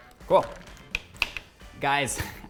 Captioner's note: tongs clank